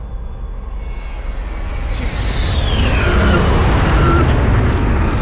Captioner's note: jet engines roaring